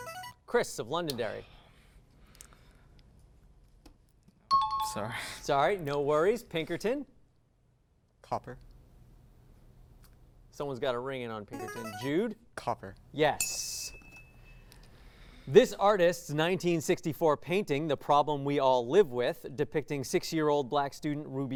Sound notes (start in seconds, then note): 4.5 high-pitched tones; 11.5 signaling device tone; 13.4 ding